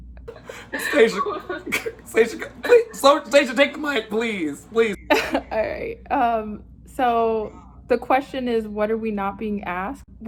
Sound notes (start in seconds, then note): 0.3 whimpers